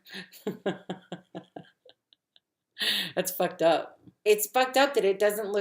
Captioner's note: laughs